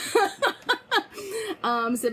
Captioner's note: laughing